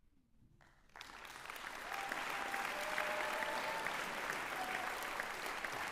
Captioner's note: applause